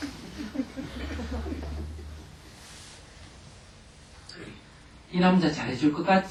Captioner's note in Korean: 청중 웃음